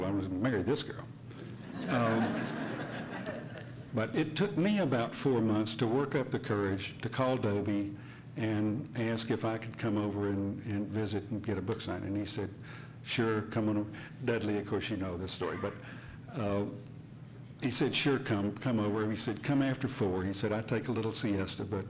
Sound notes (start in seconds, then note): 1.6 hearty laughing